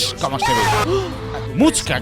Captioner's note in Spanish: gasp